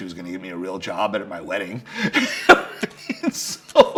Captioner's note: laughs